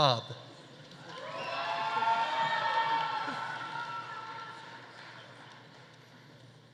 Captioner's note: audience applauding; audience cheering